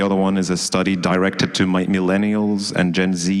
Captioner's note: none